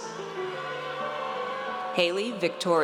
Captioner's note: audience cheers